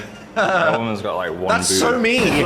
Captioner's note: laughs